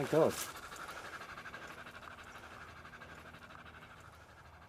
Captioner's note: buffalo panting